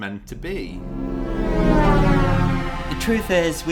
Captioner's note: space woosh